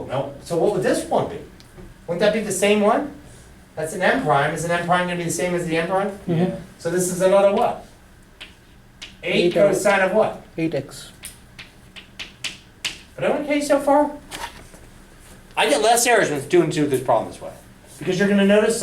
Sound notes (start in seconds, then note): 7.3 voiceover; 11.1 voiceover